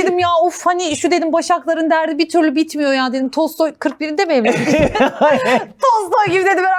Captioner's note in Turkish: kahkaha